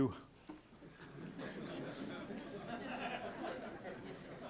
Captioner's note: laughter